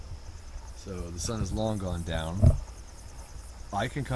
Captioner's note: none